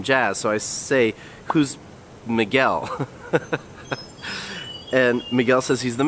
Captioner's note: chuckles